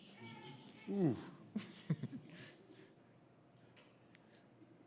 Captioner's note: chuckling